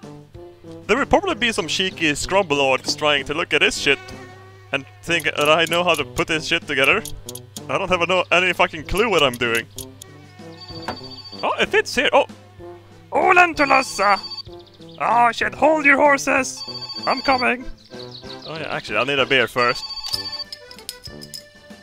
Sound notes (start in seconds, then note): 10.5 phone ringing; 13.4 speaks Finnish